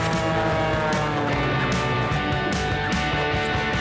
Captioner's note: airplane whirring; upbeat music